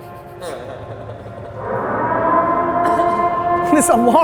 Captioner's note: air siren wailing